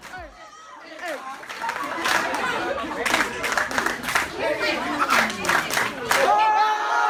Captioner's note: crowd talking; crowd clapping; crowd cheering